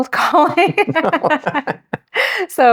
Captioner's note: both laughing